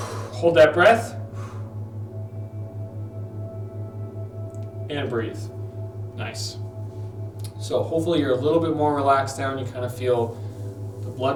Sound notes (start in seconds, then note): 0.0 exhales